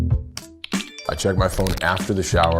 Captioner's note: phone alert